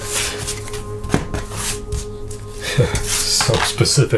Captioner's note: cards scraping; laughs